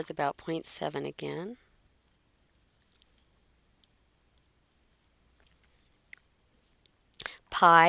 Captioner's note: silence